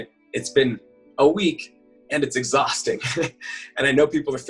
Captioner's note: chuckles